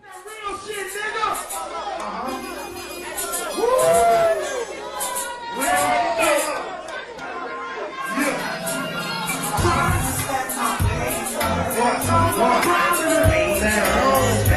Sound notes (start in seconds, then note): 0.0 upbeat music; 5.3 crowd exclaiming